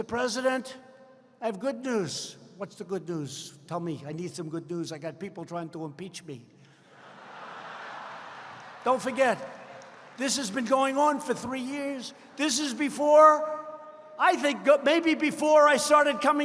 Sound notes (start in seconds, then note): 6.9 laughter